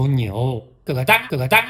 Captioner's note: cluck